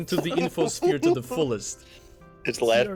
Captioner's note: laughs